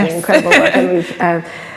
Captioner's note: laughs